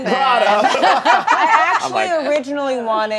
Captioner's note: laughter